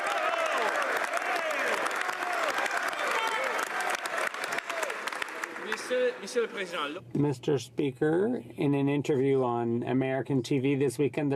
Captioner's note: some Applause